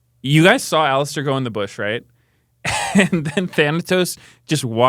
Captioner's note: laughs